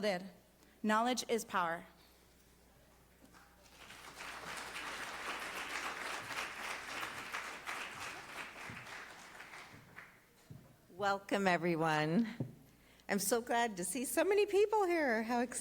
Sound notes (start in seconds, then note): 8.1 applause